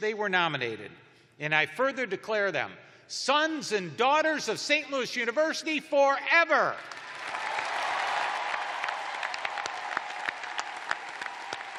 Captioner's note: cheers and applause